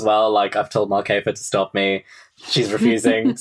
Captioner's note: laughing